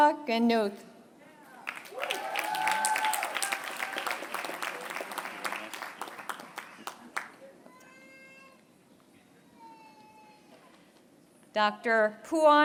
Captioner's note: applause